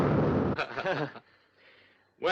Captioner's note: laughs